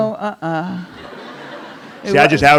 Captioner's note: audience laughing